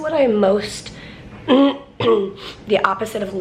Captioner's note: clears throat